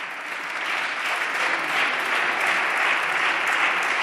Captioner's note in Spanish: Aplausos